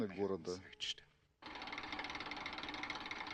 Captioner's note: whirring